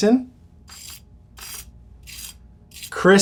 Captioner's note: skin whirring